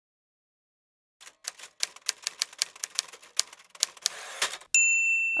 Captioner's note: typewriter